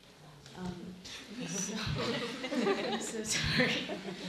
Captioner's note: laughing